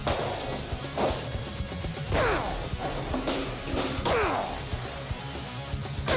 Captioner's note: grunting